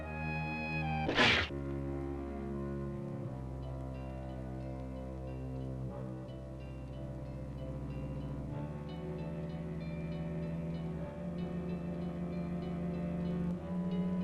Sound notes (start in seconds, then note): 1.0 cat hisses; 2.5 suspenseful music